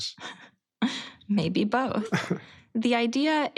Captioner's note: laughs